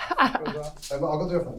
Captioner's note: laughs